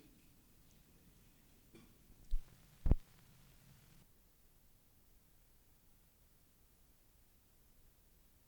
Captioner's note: no audio